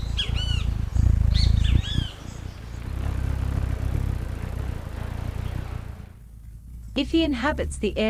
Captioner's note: birds chirping; bird's wing flapping